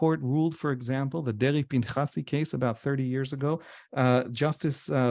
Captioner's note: hebrew